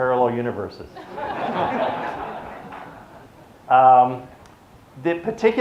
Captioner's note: audience laughs